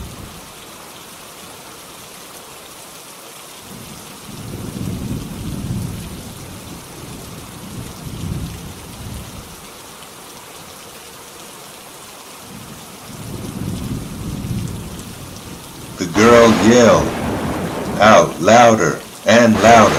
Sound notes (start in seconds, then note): 8.9 thunder rumbling